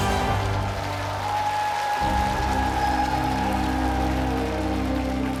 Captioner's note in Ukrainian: оплески